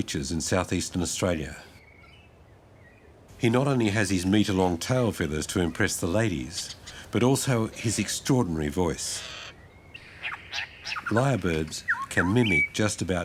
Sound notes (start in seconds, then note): 9.0 bird screeches